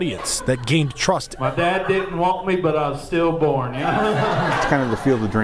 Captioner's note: laughter